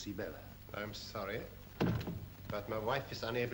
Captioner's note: door closes